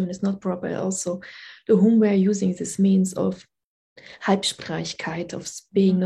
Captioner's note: speaking german